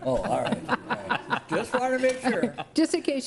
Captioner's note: board members laugh